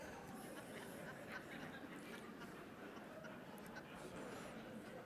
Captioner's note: audience laughing